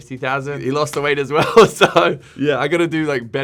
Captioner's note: laughing